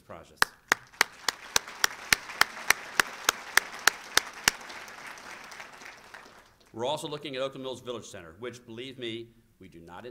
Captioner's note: applause